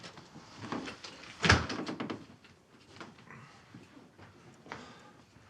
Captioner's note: door thuds